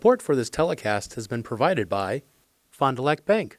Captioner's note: voiceover